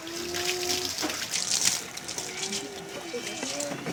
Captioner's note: water splashing